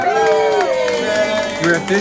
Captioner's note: crowd applauds